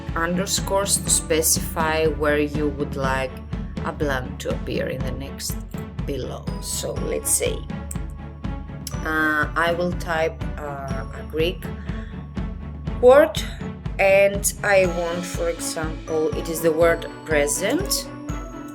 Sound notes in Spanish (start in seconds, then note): 15.5 en griego